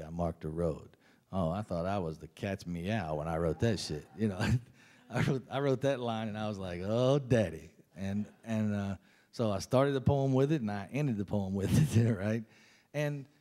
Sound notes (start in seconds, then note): 3.4 laughs